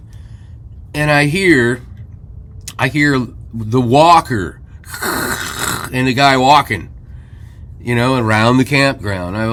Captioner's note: clears throat and snorts